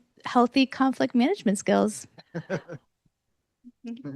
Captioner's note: laughs